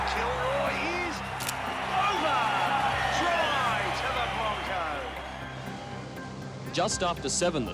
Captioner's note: camera shutter clicking